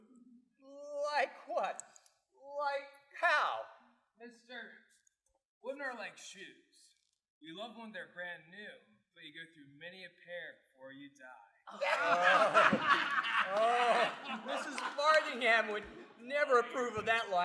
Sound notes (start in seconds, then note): 11.8 raucous laughter